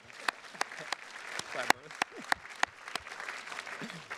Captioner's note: attendees clapping